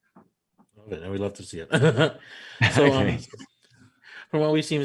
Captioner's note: man laughs